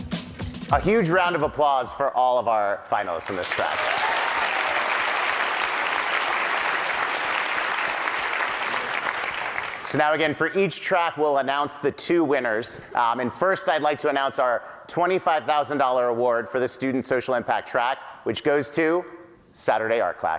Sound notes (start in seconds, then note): 13.1 applause